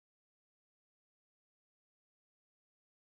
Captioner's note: none